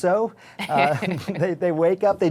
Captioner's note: laughter